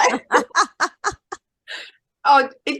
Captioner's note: everyone is laughing